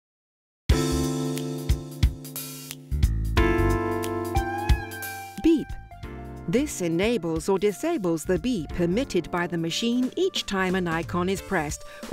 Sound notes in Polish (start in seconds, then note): 4.4 beep